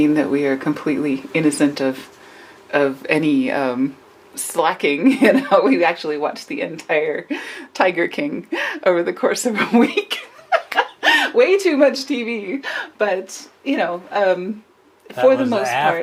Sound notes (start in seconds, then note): 9.6 laughs